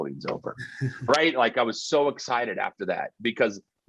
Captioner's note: chuckling